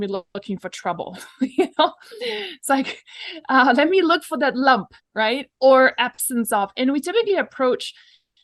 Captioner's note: laughs